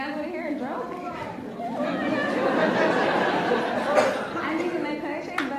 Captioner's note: laughs